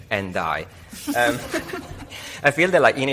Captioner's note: audience laughs